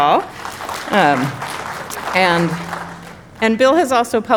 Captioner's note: audience applauding